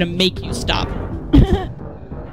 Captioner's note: laughter